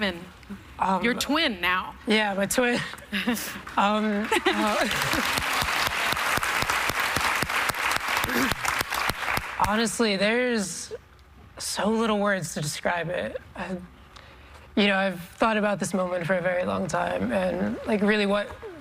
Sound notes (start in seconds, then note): 5.8 applause